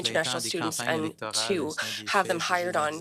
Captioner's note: speaking French